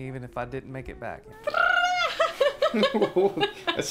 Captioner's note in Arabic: أصوات الطيور السخيفة; يضحك